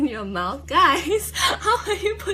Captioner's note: laughs